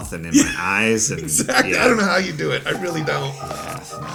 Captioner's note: laughs